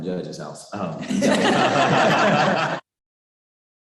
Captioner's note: chuckling